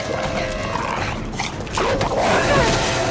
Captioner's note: grunting